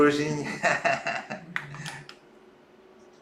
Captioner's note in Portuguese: risos